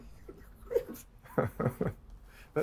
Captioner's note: chuckling